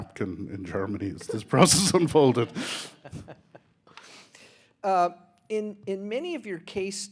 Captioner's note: laughing